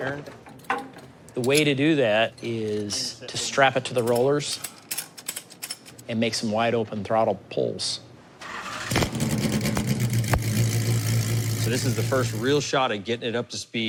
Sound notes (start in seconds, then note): 8.4 engine starts